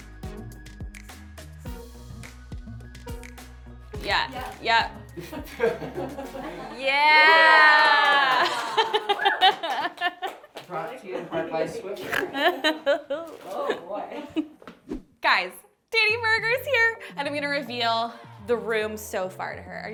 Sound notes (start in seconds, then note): 5.2 laughs